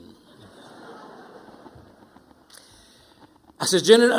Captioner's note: audience laughing